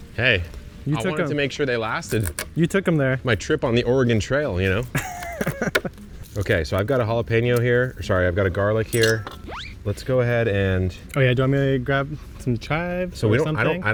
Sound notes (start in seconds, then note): 4.9 laughing